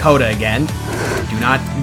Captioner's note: exeedingly loud exhale